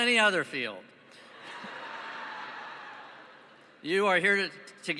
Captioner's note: laughing